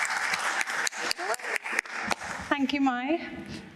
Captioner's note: applause